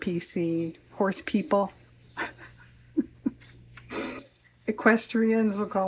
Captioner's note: laughs